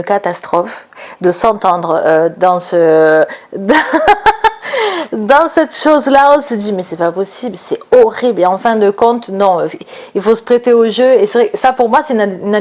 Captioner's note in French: rires